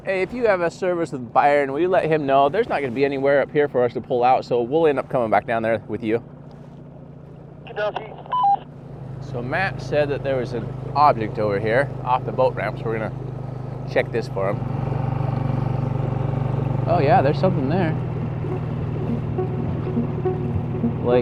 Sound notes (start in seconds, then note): 14.7 engine buzzing; 19.0 suspenseful music